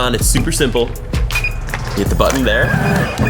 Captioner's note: electronic beeps